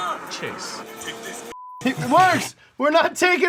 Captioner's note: beep